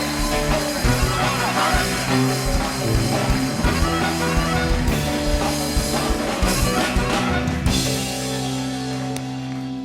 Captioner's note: applause